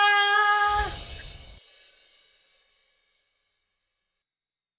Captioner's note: chimes tinkling